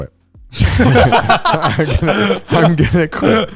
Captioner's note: all laughing